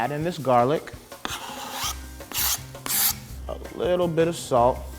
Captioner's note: scraping